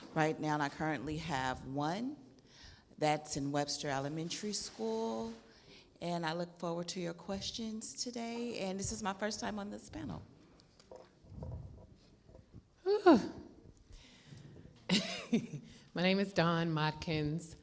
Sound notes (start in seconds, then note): 13.9 exhales; 15.3 laughs